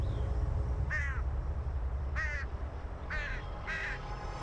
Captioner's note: bird caws